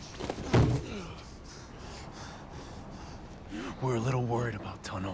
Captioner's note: man grunts; Peter panting